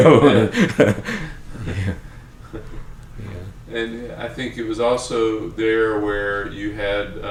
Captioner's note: laughs